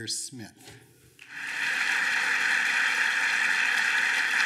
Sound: applause

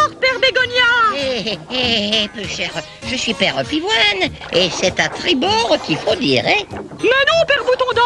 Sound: chuckles

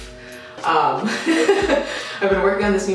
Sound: laughs

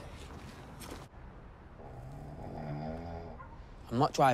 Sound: snoring

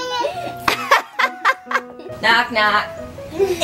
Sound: laughing

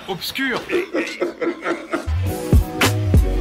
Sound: evil laugh

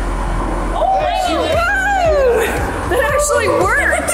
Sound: cheering

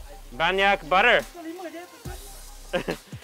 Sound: speaking in foreign language

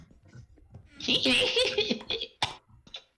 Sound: less impressive cackle

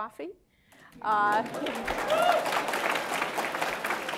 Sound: applause

